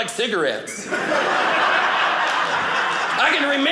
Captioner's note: audience laughing